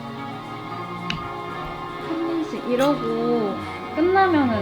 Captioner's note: munch munch